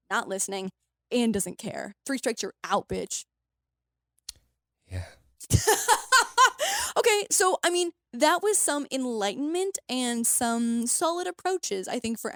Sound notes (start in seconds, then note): 5.5 laughs